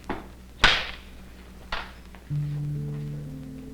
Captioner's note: wood clanks; slow music